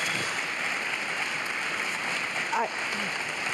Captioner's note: applause